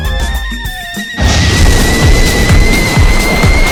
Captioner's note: explosion